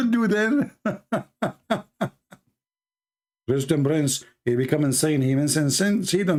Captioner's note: Ketawa